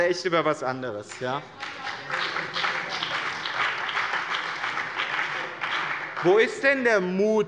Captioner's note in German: Beifall bei dem BÜNDNIS 90/DIE GRÜNEN und der CDU